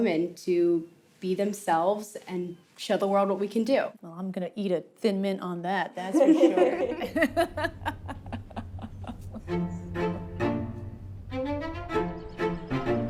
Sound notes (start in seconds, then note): 6.1 laughter